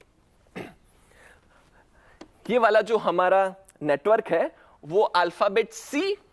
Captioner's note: clears throat